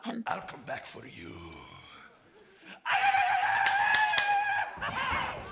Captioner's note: whooping